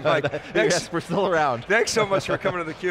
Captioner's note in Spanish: risas